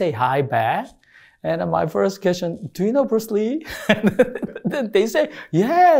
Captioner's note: laughs